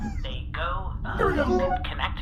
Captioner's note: call beeps